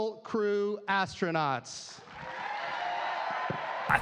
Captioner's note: cheers and applause